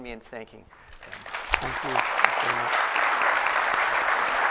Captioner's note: applause